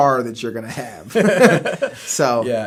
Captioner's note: both laughing